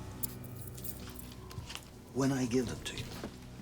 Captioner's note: keys jangle